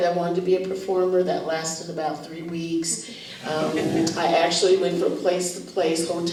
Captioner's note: laughter